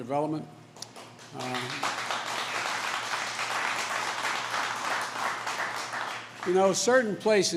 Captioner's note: applause